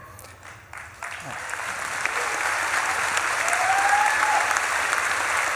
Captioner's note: audience claps and cheers